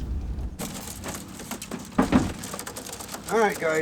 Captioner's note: wings rustling